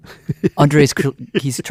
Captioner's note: laughs